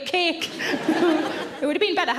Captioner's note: audience laughing